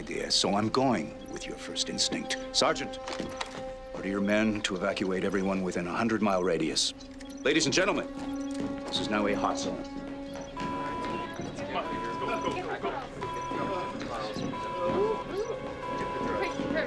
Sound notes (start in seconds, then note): 10.2 alarm wailing; 13.3 indistinct chatter; 14.7 wailing continues